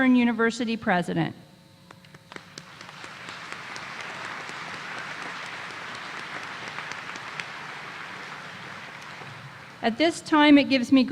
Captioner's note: applause